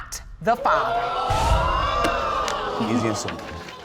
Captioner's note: audience exclaiming